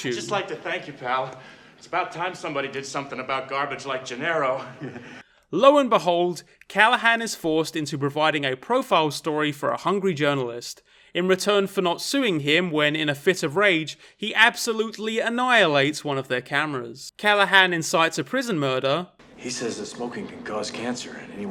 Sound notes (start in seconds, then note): 4.4 laughs